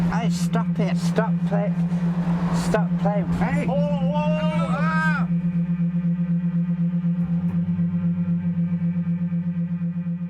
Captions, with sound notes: Hey stop it .... stop playin ... stop playing aro..... - Hey! - Whoa whoa whoa! (VERY INTENSE HUMMING)